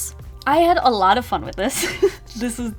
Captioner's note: laughs